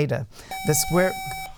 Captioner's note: buzzer